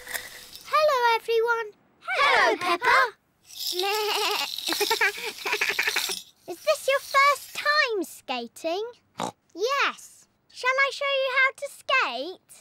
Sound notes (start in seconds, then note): 3.2 bleats; 9.2 snorts